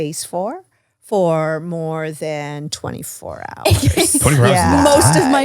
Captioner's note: laughs